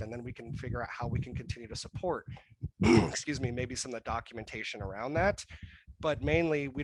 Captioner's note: clears throat